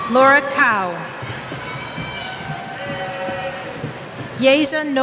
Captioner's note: cheers